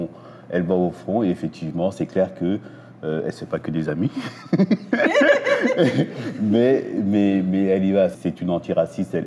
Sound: laughs

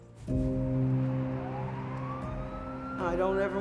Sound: police sirens wail

